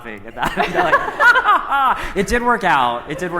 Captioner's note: laughs